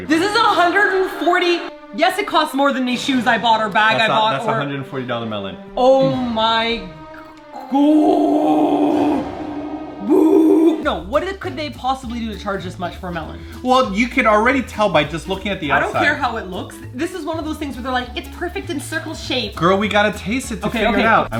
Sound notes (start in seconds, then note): 1.1 echoes; 7.9 deep voice; 10.1 deep voice, echoing